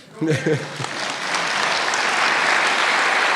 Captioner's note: applause